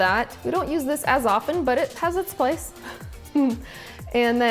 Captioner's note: laughs